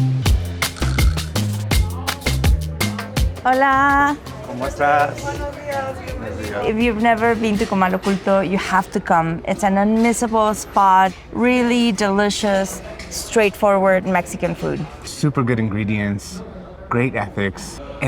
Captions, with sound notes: [upbeat music continues] [speaking Spanish] - If you've never been to Comal Oculto, you have to come. It's an unmissable spot. Really delicious, straightforward Mexican food. - Super good ingredients, great ethics.